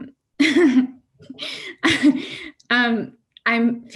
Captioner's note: laughs